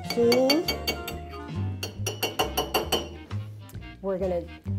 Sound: spoon banging

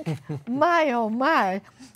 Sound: chuckles

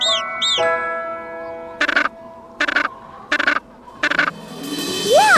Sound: squawking; squawking

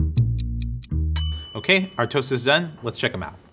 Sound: timer ticking; timber ringing

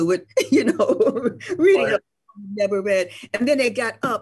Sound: laughs

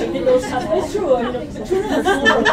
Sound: laughter

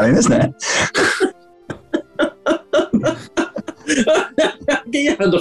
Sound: laughing

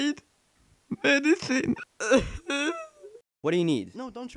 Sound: cough

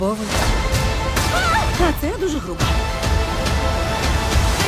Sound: screams; dramatic music continues

